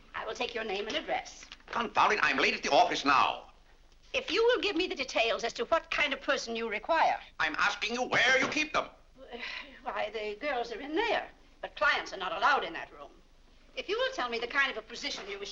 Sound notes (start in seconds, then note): 8.1 banging cane; 9.3 sighs